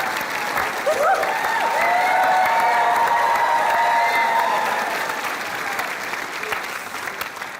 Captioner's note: cheering and applause